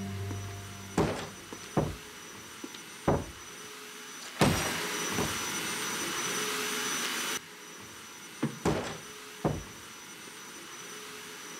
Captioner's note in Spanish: Ruido de la aspiradora